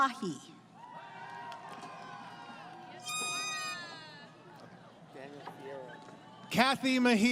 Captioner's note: crowd Cheering